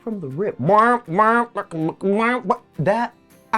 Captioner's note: imitates horn playing